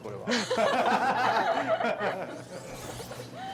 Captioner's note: laughter